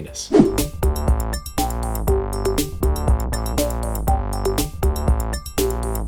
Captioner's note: upbeat music; scene change whooshing